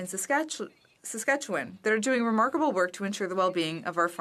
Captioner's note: speaking French